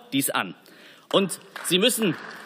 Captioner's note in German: Beifall